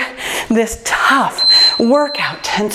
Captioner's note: timer beeps